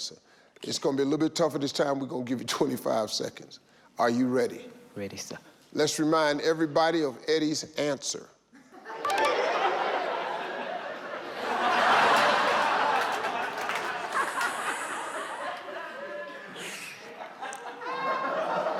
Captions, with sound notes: It's going to be a little bit tougher this time. We're going to give you 25 seconds. Are you ready? - Ready, sir. - Let's remind everybody of Eddie's answer. (audience laughs)